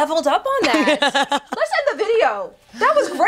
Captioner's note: laughter